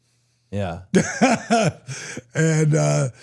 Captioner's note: DDP laughs